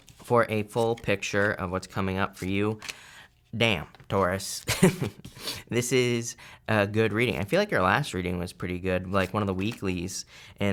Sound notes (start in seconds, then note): 4.7 chuckles